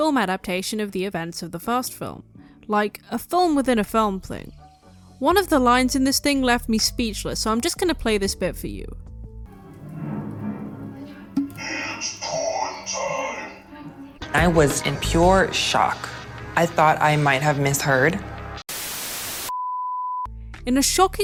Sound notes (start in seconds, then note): 18.7 static